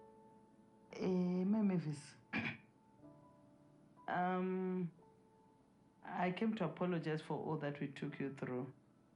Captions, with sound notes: Eh, Mai Mavis. [clears throat] Um, I came to apologise for all that we took you through.